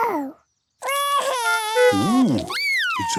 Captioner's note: cries